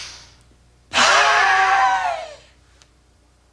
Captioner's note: breathing; screaming